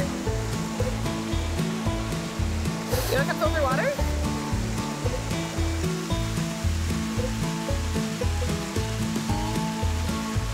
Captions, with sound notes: (upbeat music) (water gurgling) Here comes all the water. (upbeat music) (water gurgling)